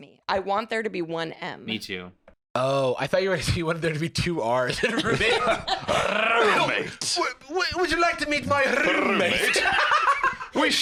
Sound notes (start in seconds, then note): 6.1 trilling; 10.1 laughs